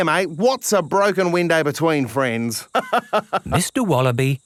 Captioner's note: laughs